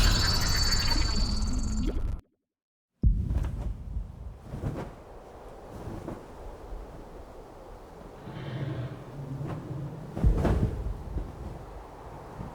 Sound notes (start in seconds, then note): 3.9 wind whirls; 4.3 feathers flap